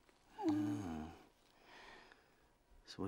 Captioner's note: both gasp